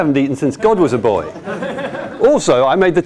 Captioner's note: laughter